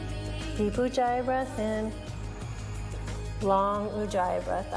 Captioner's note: breathes